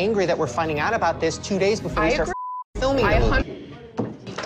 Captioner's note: beep